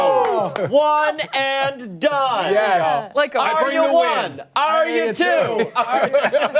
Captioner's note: applause